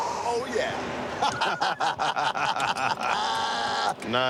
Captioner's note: laughter